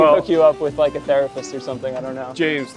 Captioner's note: laughs